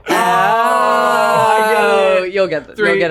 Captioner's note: all yelling